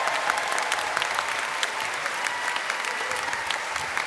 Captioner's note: applause